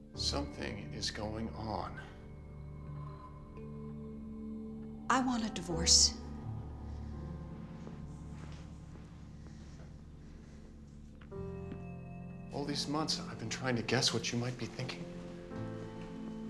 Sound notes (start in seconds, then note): none